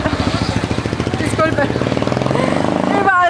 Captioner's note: in Spanish